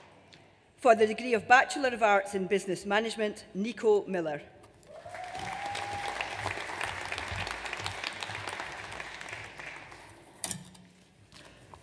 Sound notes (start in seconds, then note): 4.9 audience applauds